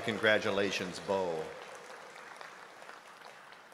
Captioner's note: applause